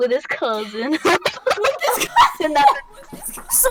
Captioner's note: laughter